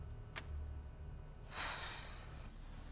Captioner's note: Alice sighs